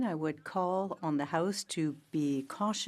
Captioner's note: speaking in French